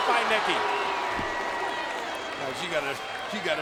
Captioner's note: spectators exclaiming